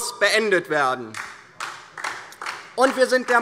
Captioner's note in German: Beifall DIE LINKE